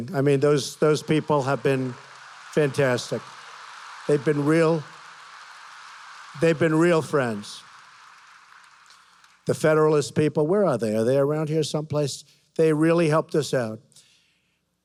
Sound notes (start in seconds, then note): 5.0 applause